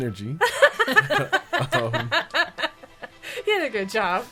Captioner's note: all laughing